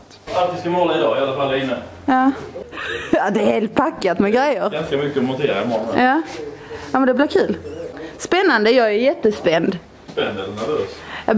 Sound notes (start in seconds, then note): 2.7 laughter